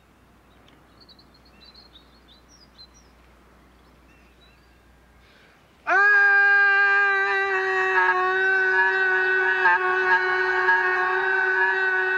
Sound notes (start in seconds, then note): 5.8 Tim screams